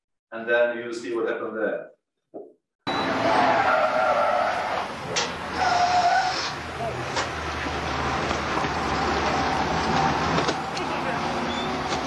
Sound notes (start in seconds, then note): 2.8 tires skid; 6.7 engine rumbling